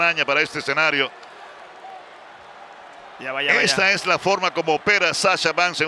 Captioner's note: applause